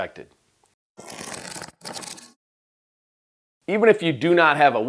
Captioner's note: scrapping sound